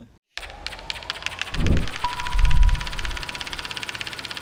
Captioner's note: film reel clicking